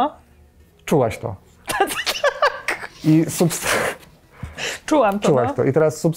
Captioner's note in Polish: śmiech